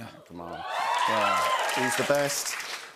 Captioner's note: cheers and applause